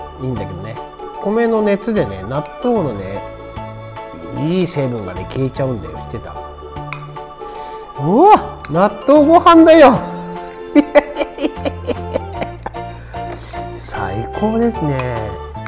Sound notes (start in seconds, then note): 10.5 laughs